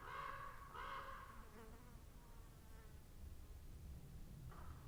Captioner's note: crows cawing; flies buzzing